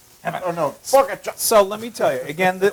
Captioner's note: laugh